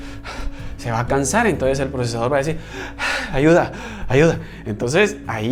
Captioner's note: gasps; gasps